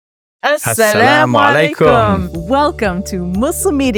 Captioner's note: both speak Arabic